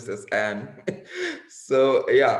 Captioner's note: laughs